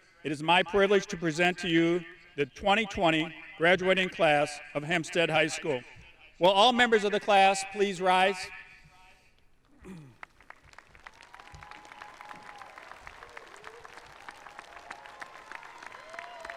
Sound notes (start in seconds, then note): 9.9 audience applauding; 11.0 audience cheering